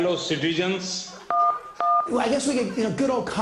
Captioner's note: phone dialing